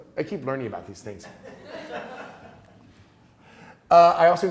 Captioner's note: class laughing